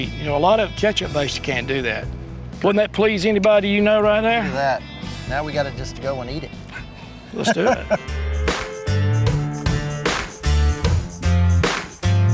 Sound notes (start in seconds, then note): 7.3 laughs; 7.4 guitar music playing